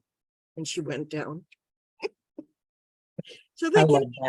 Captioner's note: giggling